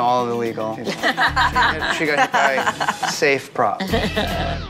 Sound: both laughing

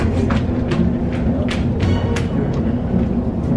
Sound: footsteps

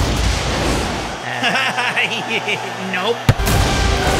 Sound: laughing, cheering

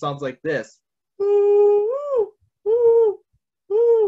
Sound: vocalizes

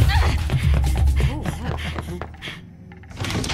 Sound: panting

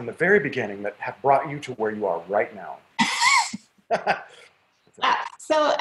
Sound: laughs

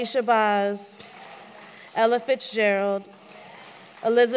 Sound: applause

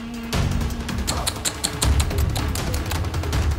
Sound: tsks

